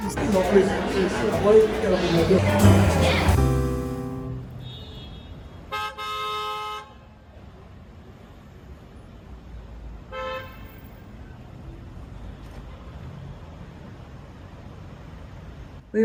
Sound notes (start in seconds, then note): 3.4 cars Honking; 3.4 city Street Sounds